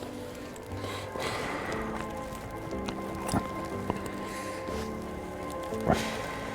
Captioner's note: fire crackling; gentle quiet music